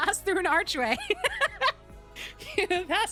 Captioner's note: laughter